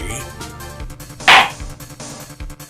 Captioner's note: gavel slam!